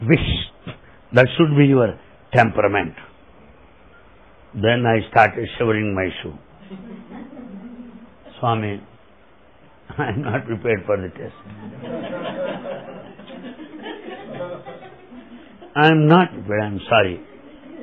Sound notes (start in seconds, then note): 7.1 laughter